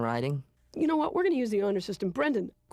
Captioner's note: in normal voice